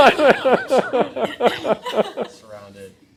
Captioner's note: laughing